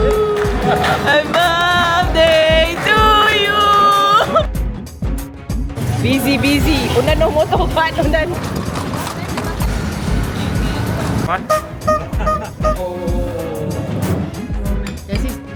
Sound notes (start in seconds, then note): 0.0 laugh; 3.9 laugh; 7.8 speaking German